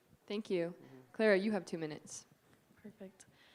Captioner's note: none